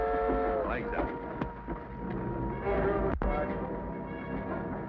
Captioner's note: horn toots